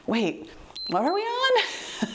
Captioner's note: timer beeps